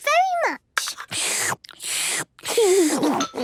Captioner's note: slurping; giggles